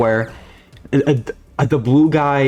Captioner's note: stutter Moment